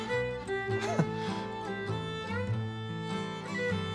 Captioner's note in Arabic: يضحك